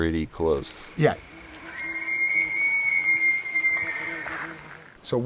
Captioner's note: bull Elk Bugle